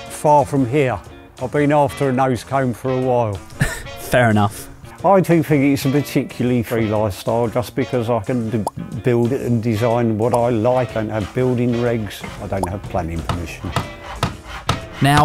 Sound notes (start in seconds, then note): 3.4 chuckles; 10.4 sawing; 13.0 hammer bangs